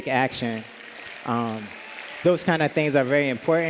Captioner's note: applause